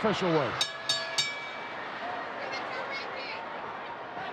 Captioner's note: bell dinging